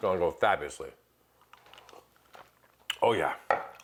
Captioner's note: sips